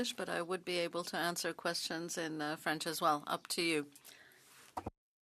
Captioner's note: speaking French